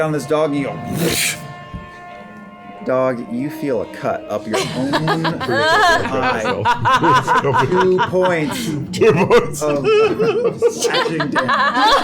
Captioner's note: whooshing